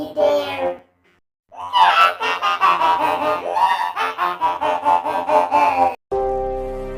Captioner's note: Menacing laugh from chicabeth